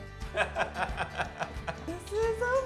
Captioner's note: laughing